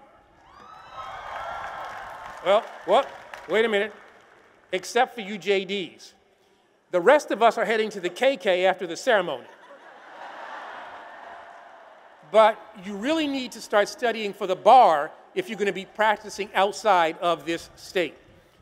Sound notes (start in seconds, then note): 0.4 applause and cheers; 9.4 laughter